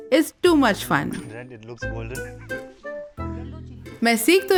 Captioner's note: laughs